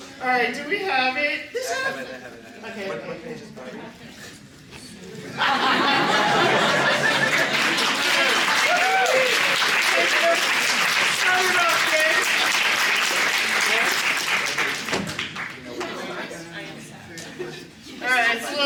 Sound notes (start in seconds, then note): 5.3 laughter; 8.0 cheering, applause